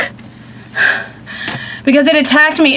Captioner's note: heavy breathing